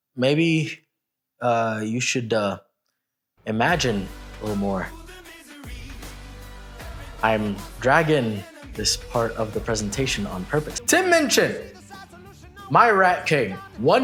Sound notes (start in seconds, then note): 7.8 dragging